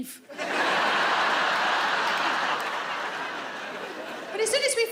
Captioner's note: audience laughing